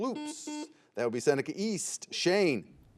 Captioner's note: buzzer beeps